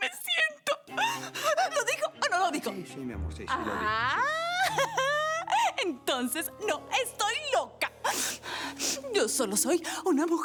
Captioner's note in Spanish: Solloza